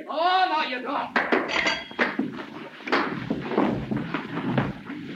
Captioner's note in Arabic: أصوات ارتطام الأجساد